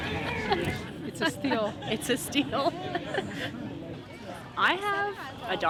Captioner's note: laughter